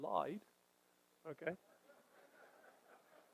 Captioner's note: audience laughter